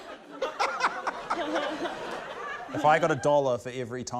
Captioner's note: laughs